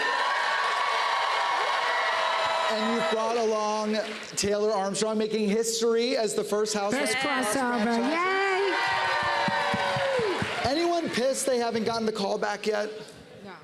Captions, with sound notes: [cheers and applause] And you brought along Taylor Armstrong, making history as the first Housewives to cross franchises. -Crossover. Yay! -[cheers and applause] Anyone pissed they haven't gotten the callback yet?